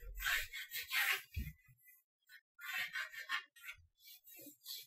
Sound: light pencil scratches

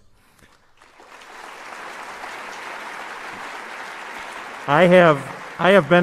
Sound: applause

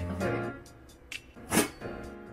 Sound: shiiiink

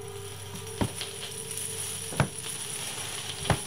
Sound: footsteps Approaching

